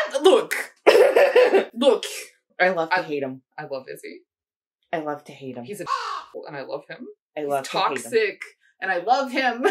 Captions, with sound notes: I- Look. look, I love to hate them. I love Izzy. I love to hate him. He's a *caw*-hole and I love him. He's toxic and I love him.